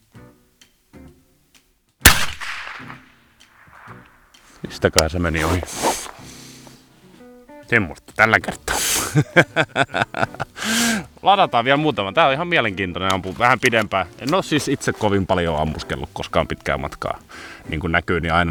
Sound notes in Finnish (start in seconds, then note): 8.5 naurua